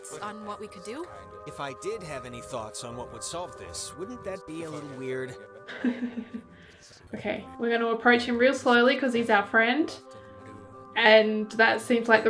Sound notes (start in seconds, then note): 5.6 nervous laugh